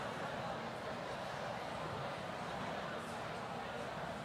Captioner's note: none